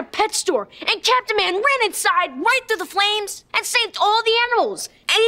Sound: none

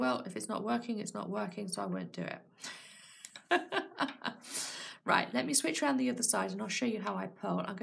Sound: laughs

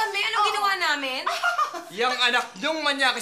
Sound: laughs

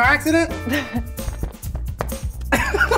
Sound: laughing

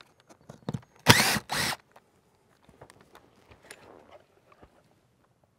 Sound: power tool whirring

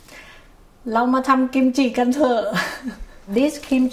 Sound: speaking Foreign Language

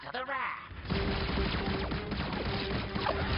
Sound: lasers blasting

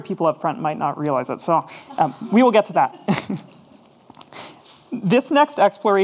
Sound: chuckles

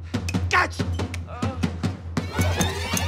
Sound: moans

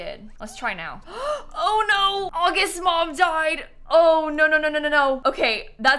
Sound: gasps

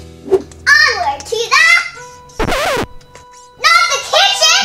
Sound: record scratches

